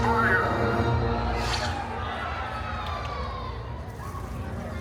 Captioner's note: guests shouting “Till the spires!”